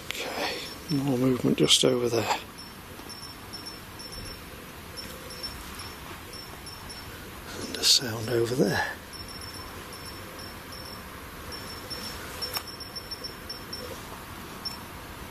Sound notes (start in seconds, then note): 3.0 device beeps; 9.7 device beeps